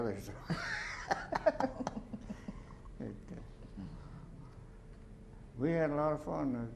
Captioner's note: laughter